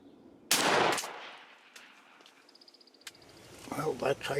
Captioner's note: gun firing